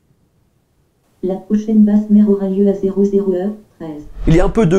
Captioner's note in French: voix robotique